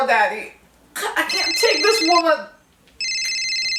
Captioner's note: phone ring